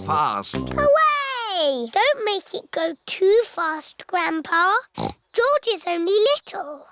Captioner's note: snorts